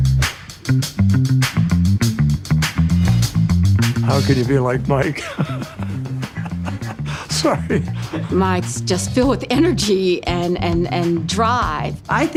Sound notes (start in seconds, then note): 0.0 upbeat music; 5.0 laughs